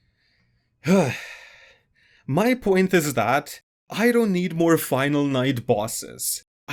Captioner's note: exhale